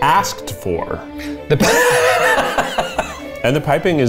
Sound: laughing

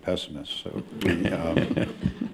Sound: laughter

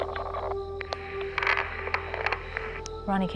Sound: creaking

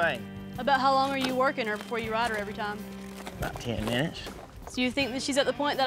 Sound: none

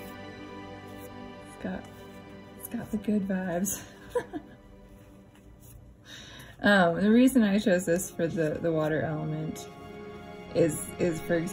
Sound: laugh

